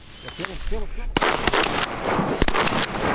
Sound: gunshots

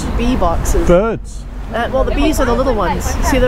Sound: birds

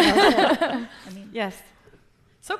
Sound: laughs

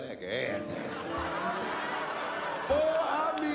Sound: audience laughs

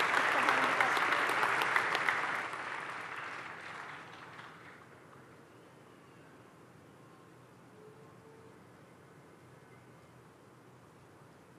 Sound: applause

